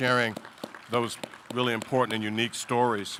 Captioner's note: audience applauding